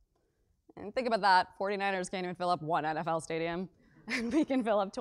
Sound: laugh

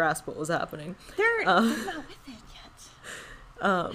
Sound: whispers

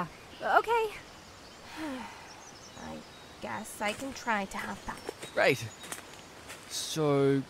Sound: sighs

